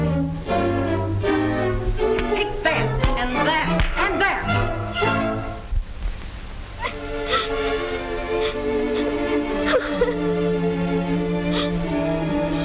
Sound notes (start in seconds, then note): 0.0 foreboding music; 3.0 blows landing; 6.8 Cinderella crying